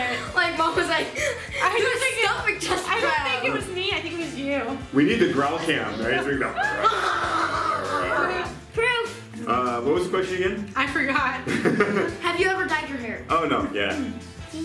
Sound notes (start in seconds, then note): 7.2 growling; 11.4 laughing